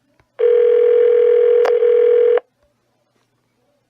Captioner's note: phone still ringing